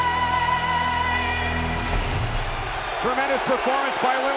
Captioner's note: audience cheering